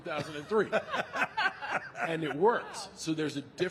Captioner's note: The Undertaker and Michelle laughing